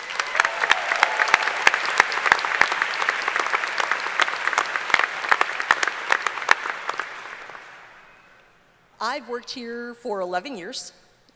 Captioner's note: applause